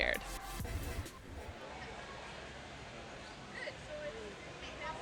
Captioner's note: scene whooshing